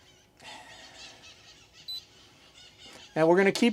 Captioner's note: squeaking sound